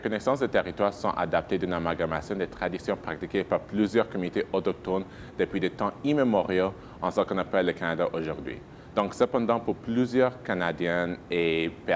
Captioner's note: speaking in French